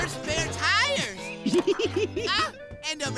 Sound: laughing

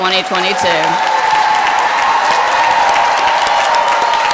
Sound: applause

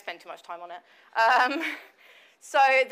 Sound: laughs

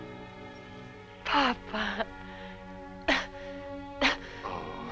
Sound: coughing

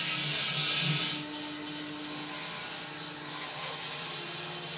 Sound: saw whirring

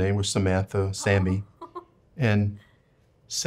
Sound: chuckles

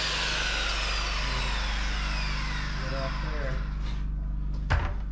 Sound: drill whirring

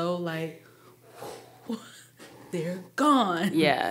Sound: blowing

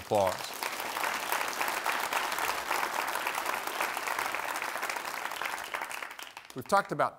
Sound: applause

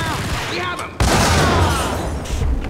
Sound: kaboom

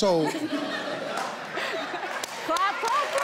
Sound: all laughing

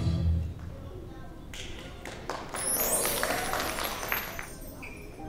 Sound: applause

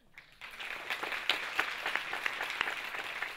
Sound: audience claps

